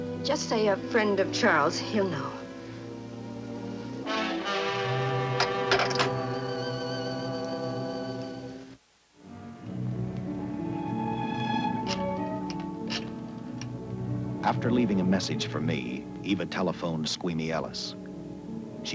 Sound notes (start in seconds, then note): 5.4 phone clicks back into receiver; 9.3 dramatic music; 11.6 rotary phone dials